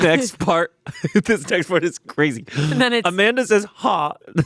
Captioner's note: laughs